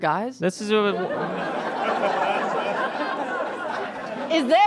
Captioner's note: audience laughs in crescendo